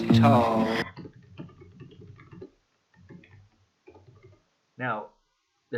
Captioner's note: typing noises